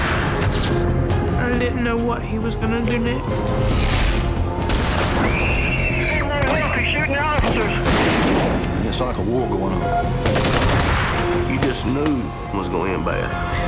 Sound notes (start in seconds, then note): 5.1 girls scream; 10.2 gunfire